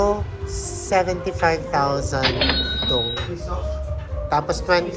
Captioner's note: cash register SFX